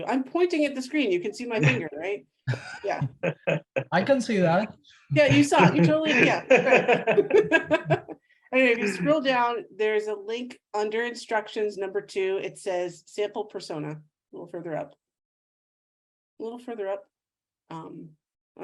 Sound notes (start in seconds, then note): 2.4 laughs; 7.0 all laugh